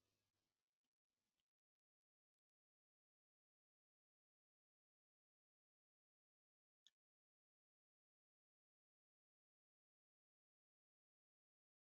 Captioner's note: 10 seconds pause